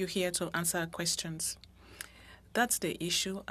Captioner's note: speaking French